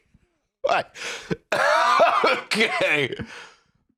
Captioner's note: laughing